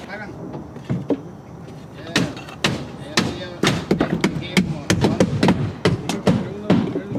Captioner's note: sound of chatter between construction workers and hammering tools